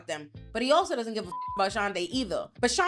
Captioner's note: beep